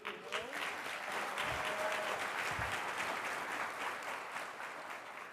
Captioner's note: audience applauding